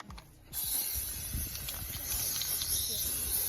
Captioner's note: spray fizzles